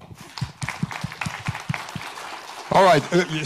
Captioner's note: audience applauds